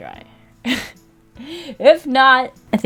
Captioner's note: laughs